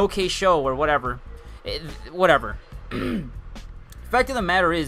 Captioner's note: clears throat